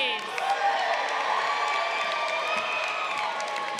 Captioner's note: crowd cheering